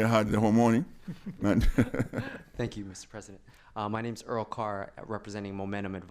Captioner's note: laughter, laughs